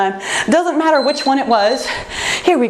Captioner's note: timer beeps